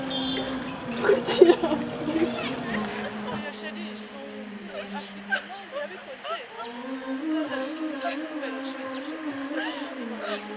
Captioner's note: girl crying